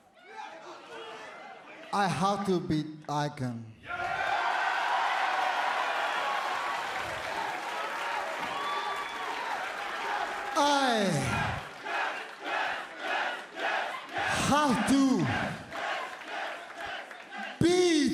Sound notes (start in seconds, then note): 3.8 cheers and applause